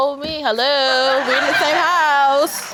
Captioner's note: audience laughing